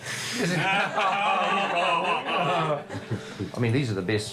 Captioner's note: all laughing